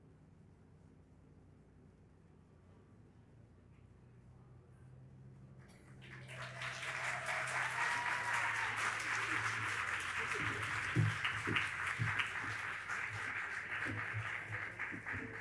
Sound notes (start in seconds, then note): 5.7 audience applauding and cheering